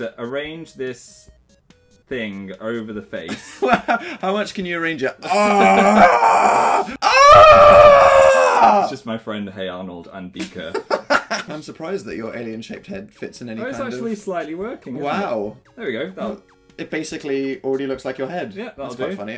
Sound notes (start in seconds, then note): 3.3 laughter; 5.2 groan; 5.2 more loud groaning